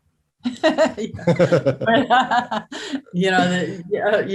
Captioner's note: both laughs